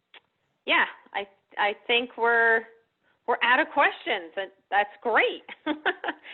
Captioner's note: laughs